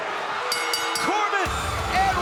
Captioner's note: bell ringing